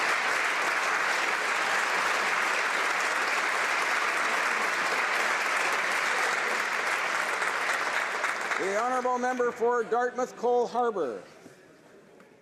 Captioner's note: applause